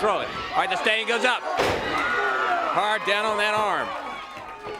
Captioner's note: crowd cheering